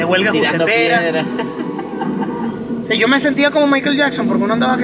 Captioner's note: laugh